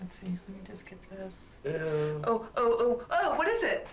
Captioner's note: man chuckling